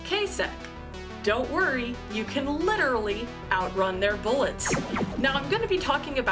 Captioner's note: laser gun fires